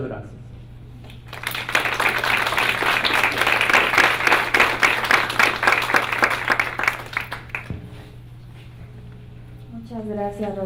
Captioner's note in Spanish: Aplausos